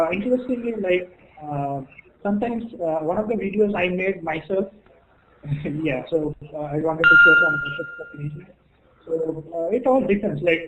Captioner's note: timer